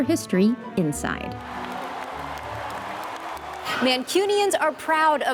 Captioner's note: fans cheering